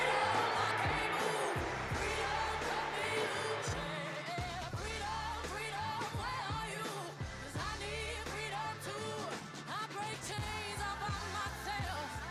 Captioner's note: applause